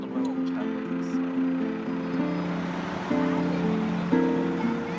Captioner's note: bus rumbles